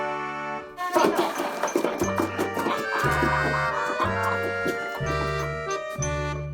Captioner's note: uncontrollable laughter